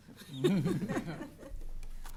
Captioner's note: chuckles